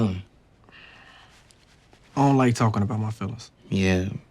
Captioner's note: sighs